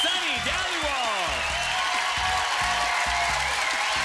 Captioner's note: crowd cheering